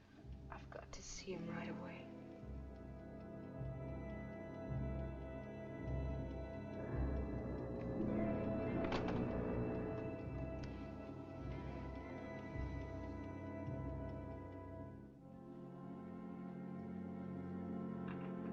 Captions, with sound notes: I've got to see him right away. [Foghorn Blows]